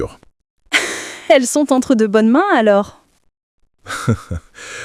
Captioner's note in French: rire